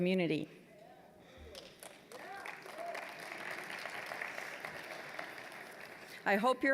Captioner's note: applause